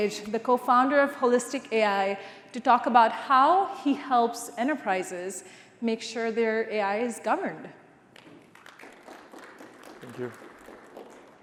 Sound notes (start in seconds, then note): 8.2 applause